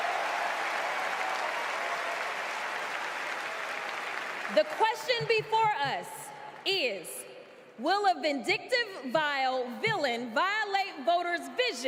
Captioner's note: applause